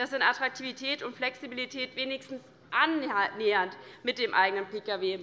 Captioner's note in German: none